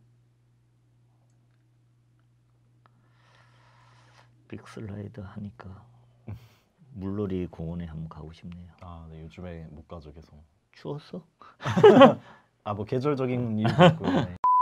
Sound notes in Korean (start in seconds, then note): 11.6 웃음